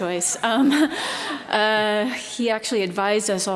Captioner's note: laughter